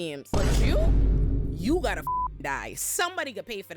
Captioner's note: beep